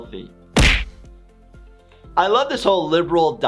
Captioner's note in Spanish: golpes de puño